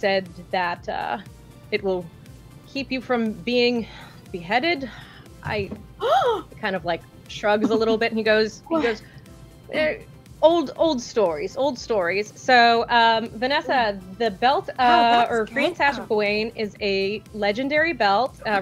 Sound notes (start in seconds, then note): 4.9 gasps